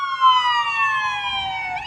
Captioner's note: nats: ambulance